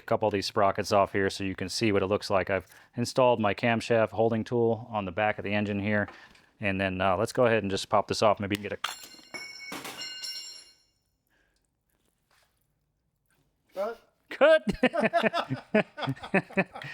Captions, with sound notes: couple of these sprockets off here so you can see what it looks like. I've installed my camshaft holding tool on the back of the engine here. And then let's go ahead and just pop this off. Maybe get a... (bell ringing) Cut. Cut. (laughing)